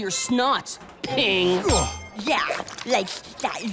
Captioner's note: ping!